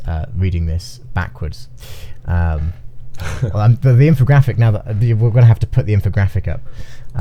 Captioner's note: chuckles